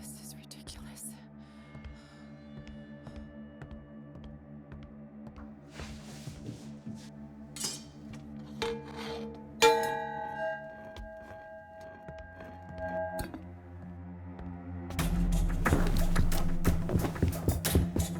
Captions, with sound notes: This is ridiculous. (pans clanging) (dramatic music)